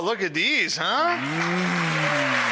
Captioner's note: audience applauding